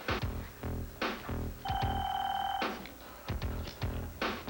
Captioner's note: ring